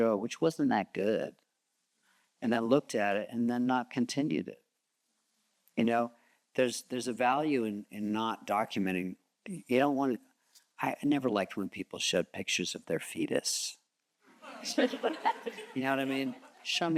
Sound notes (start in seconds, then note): 14.4 audience chuckles